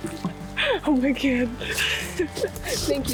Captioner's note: laughing